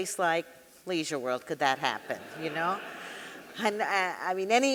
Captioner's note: audience laughing